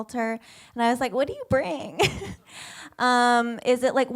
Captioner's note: laughs